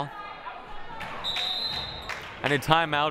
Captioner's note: whistle blaring